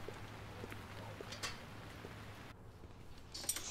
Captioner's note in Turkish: Ayak sesi; Yağmur sesi; Kapı açılma sesi